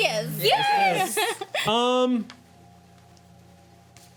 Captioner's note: laughing